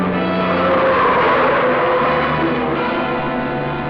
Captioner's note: tires screech